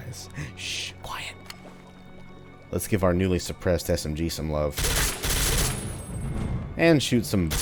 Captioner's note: whispers